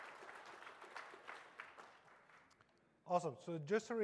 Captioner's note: applause